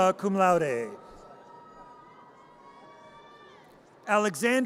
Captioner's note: audience cheers